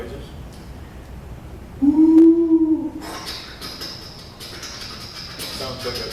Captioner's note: pathetic attempt at train noises